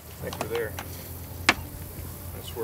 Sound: paddles clacking

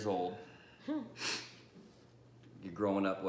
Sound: sniff

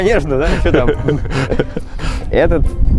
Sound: laughing

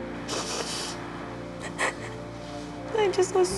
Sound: sniffles; crying

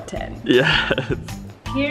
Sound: laughs

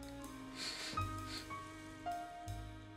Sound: sniffs

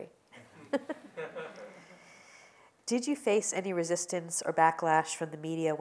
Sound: laugh

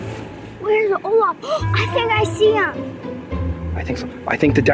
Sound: gasp

